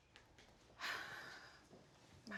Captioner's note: deep sigh